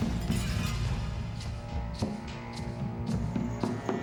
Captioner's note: glass shattering